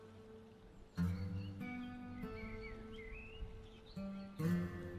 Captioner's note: birds chirping